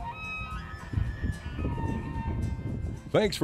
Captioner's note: shrieking elk bugling